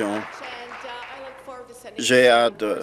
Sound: applause

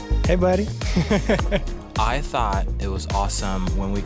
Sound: laughing

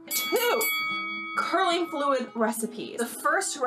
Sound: bell ringing

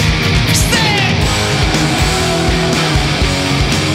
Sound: crowd; upbeat rock music

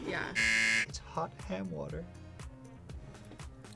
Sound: buzzer rings

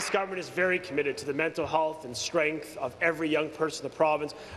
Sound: applause

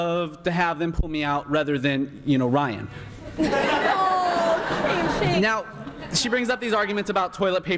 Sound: laughter and shame shame

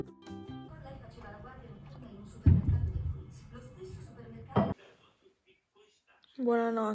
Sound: television in the background

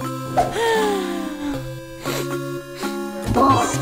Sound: sighs & sniffs

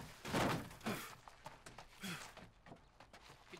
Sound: panting

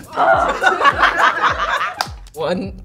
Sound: group laughs

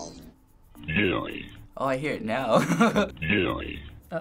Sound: laughing

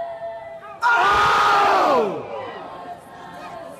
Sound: yelling

